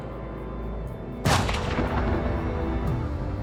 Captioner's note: gunshot